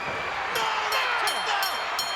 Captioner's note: bell rings